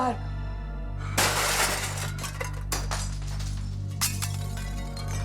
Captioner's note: glass crashing; ominous music